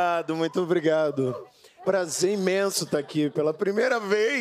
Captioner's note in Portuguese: risos